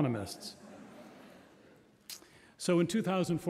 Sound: audience laughs

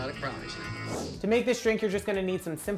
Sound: air whooshes

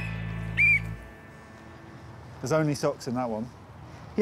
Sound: whistles

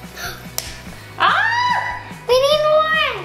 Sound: screams

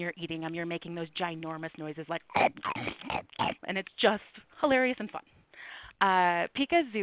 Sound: chomp

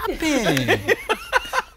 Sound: laugh

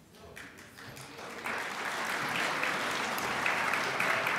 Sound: crowd applauds

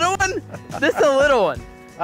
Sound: laughs

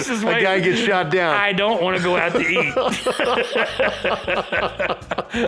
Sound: both laugh

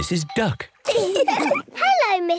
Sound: all laugh

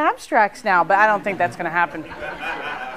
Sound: laughter

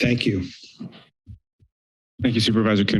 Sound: pause

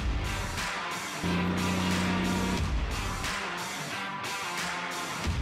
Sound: engine rumbling

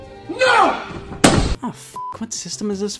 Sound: beep

